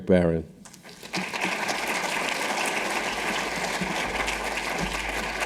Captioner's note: audience applauding